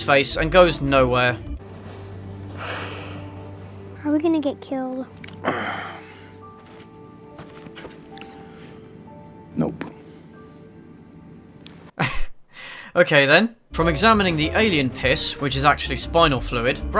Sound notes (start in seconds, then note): 2.5 sighs; 5.3 grunts; 11.9 laughs